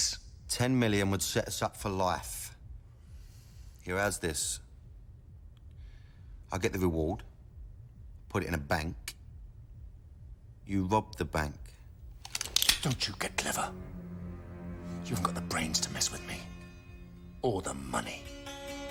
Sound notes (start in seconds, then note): none